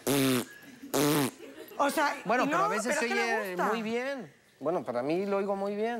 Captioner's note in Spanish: Risas; Hace un sonido oclusivo